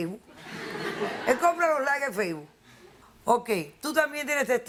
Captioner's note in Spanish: Risas